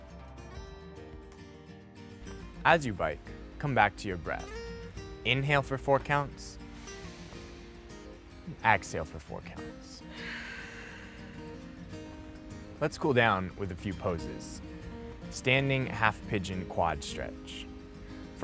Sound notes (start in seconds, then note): 0.3 soothing guitar chords; 6.6 inhaling; 10.0 exhaling